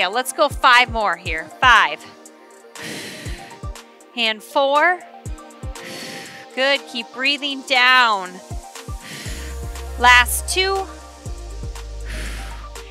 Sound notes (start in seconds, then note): 2.0 exhales; 5.7 exhales; 8.9 exhales